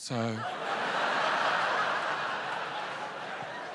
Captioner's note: laughter